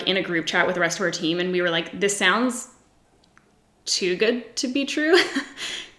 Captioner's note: giggles